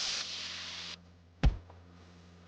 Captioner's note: body thud